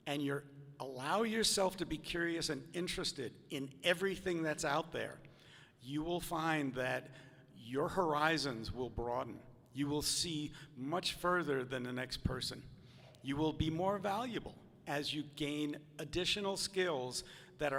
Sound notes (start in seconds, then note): none